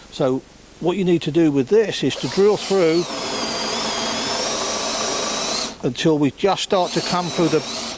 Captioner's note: drilling noise